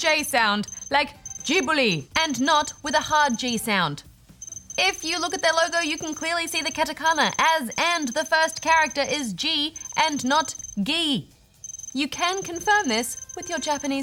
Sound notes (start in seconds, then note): none